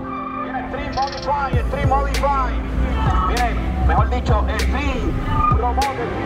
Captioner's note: race announcer in background